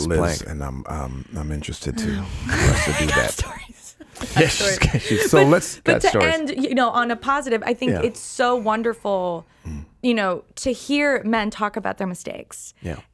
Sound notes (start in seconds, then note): 4.1 laughing